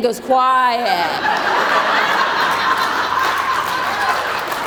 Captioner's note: crowd laughs